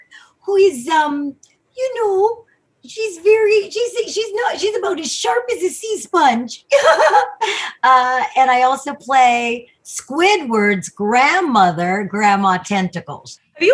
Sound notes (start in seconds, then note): 0.0 'old woman' voice; 6.7 giggles; 7.7 normal voice